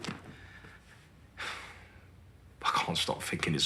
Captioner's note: he sighs